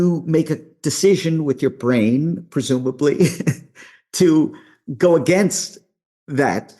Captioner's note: chuckles